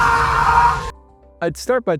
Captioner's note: scream